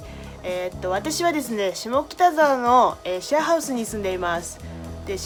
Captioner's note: speaking in foreign language